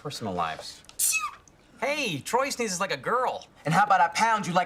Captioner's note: Troy sneezes